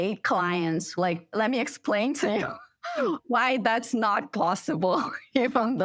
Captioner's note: laughter